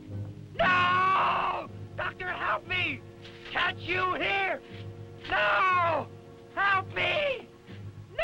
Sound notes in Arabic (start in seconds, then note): 0.6 صراخ